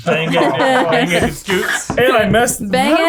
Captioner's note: all mumbling